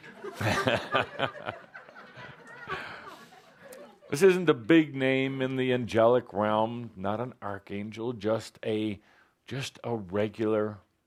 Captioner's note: laughter